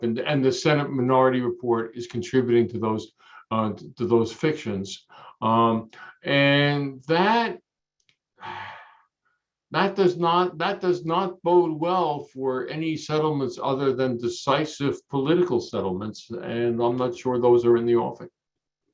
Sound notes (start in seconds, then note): 8.4 sighs